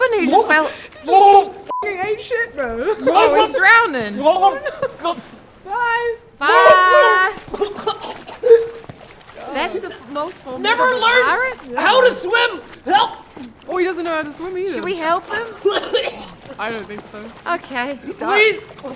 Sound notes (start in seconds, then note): 4.1 gurgles; 7.5 audibly choking; 15.3 choking loudly